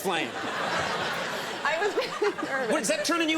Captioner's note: laughter